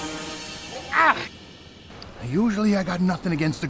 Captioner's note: Lukas grunting